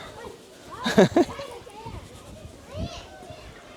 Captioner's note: laugh